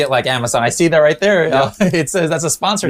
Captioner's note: chuckles